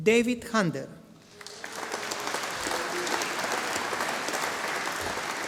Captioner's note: audience applauding